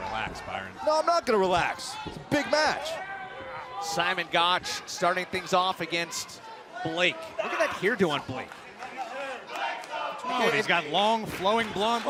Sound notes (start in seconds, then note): 10.1 fans chanting